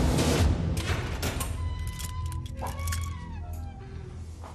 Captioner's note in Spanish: Sonido al abrir la puerta